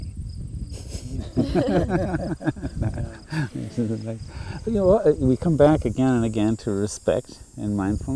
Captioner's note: laughing